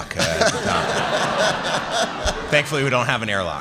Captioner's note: laughter